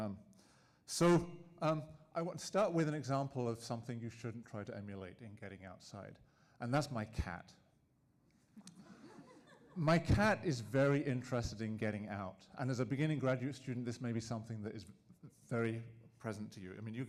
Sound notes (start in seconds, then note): 8.7 audience laughing